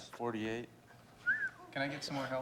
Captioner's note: whistles